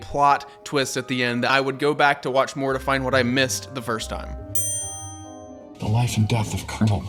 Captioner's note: ding